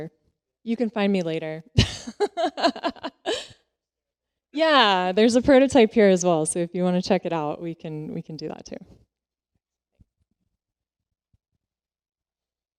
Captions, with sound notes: Or you can find me later. [LAUGHS] Yeah, there's a prototype here as well, so if you want to check it out, we can do that too.